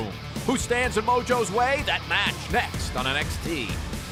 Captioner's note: none